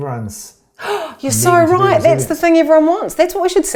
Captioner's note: gasps